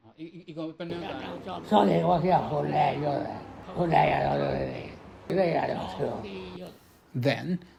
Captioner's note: local dialect, translated